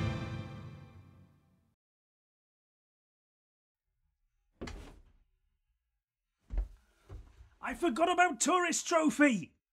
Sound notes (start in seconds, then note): 4.6 door fwooshes open; 6.5 stomp